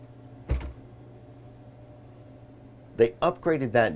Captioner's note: door thudding